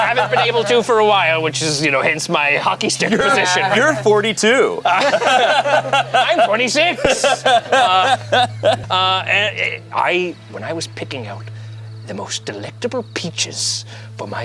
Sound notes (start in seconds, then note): 4.8 group laughs